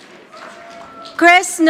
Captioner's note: audience applauding